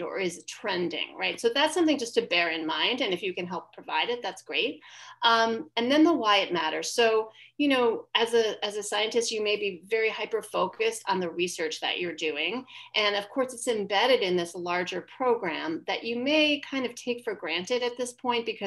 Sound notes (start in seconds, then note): none